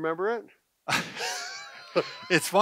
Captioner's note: laughs